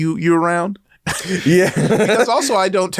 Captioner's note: both laugh